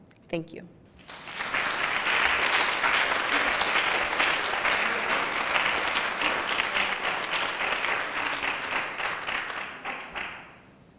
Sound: applause

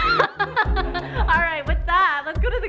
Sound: laughs

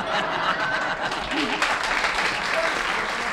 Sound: laughter

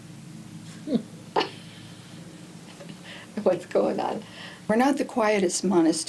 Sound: laughing

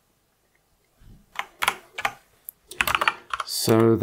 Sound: blank Audio

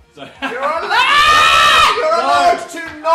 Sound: laughs; screams

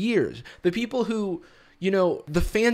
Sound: none

